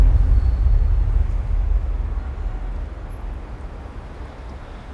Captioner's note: car engines revving